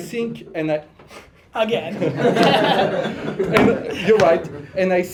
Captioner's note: laughter